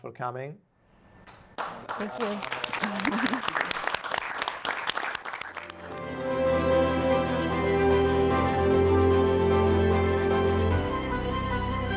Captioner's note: applause